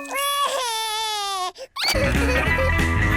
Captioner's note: cries